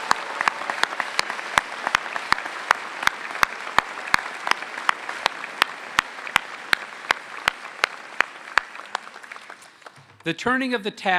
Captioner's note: applause